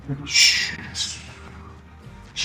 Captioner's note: making the sound of speed